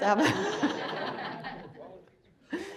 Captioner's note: crowd laughs